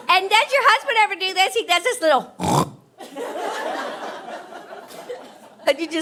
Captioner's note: snorts